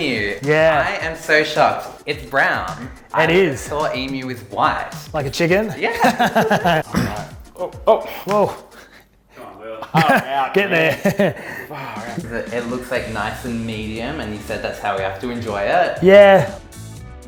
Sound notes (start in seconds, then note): 6.8 laughs; 9.8 laughs